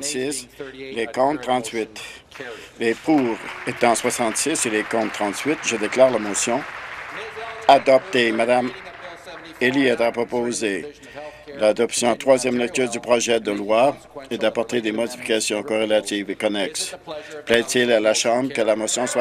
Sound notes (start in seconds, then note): 5.7 applause